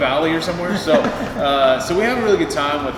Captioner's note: laughs